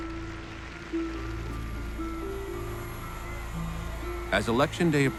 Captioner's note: audience applauding; crowd cheering